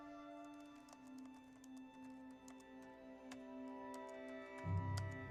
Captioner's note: keyboard clicking